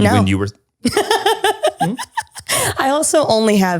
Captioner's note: laughs